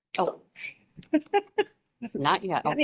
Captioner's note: woman laughs